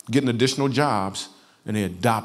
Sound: none

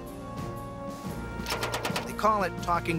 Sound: gun shots

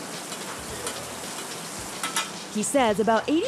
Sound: food sizzling

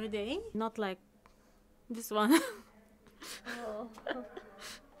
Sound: laughs at Lisa

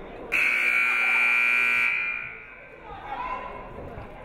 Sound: buzzer buzzes

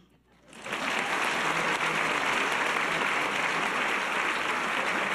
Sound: audience applause

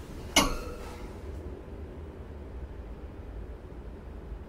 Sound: metal clanging

